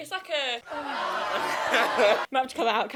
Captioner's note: crowd cheering